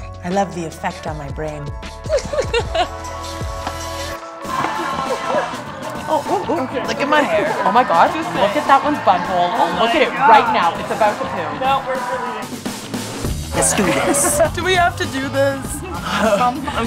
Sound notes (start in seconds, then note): 2.0 giggling